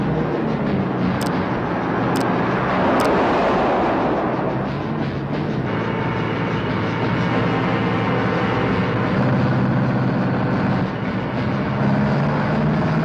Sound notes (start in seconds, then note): 0.9 truck whizzes; 9.6 truck engine whirring